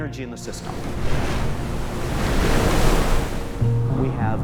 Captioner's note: waves crash